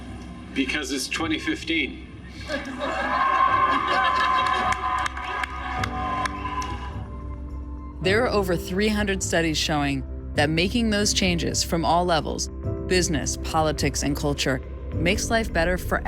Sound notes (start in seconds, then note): 2.3 laughing; 2.6 cheering